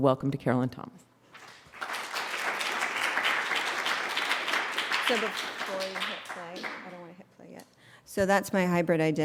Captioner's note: applause